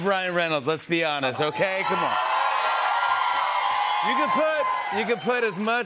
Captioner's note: cheers and applause